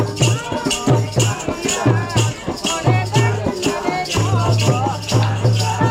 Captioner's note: chanting